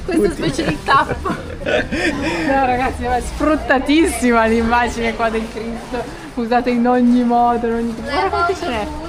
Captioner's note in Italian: risate